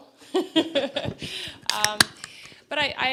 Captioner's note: laughter